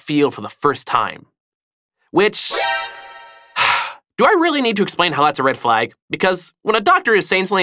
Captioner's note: sigh